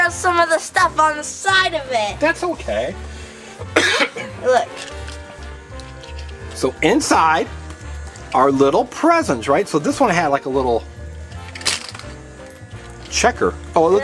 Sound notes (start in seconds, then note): 3.7 Mr. Engineer coughs